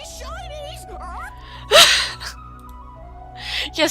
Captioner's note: laughing some more